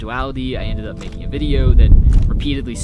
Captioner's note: camera shutter clicking